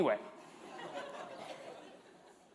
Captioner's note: laughter